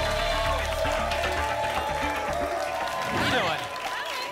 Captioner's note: applause and cheering cont